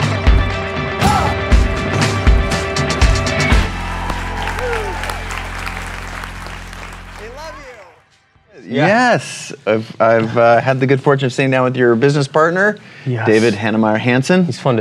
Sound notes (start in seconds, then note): 3.5 applause